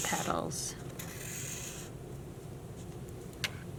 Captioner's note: scratching marker